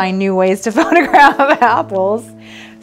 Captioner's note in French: rires